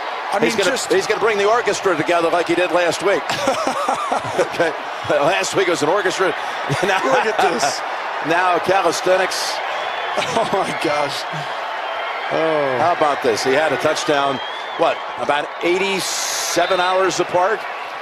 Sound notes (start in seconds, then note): 3.2 both laughing; 6.6 Jim laughing